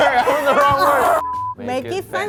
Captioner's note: groans; beep